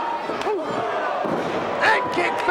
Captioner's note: foot slaps